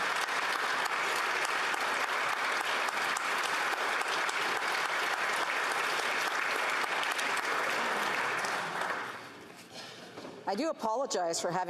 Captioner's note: some Applause